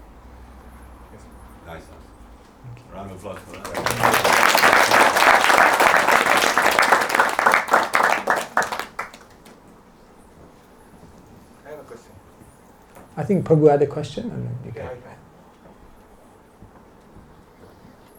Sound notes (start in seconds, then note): 10.4 claps